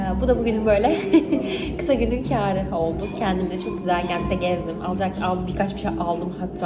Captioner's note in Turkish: kahkaha